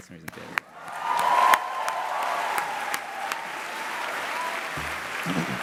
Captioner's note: applause